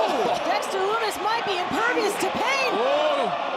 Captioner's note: chuckles